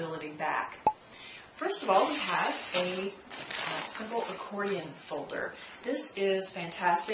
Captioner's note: pop